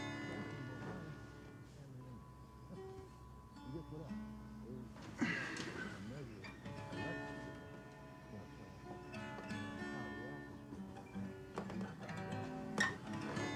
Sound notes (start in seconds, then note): 0.1 slow gentle guitar music; 5.2 Isaac groans; 9.6 slow gentle guitar music